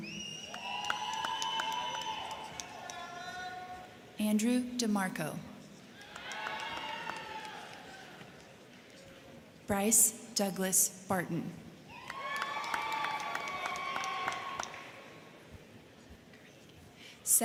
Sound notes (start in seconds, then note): 0.0 crowd cheering; 0.2 crowd clapping; 5.9 crowd cheering; 5.9 crowd clapping; 11.9 crowd cheering; 11.9 crowd clapping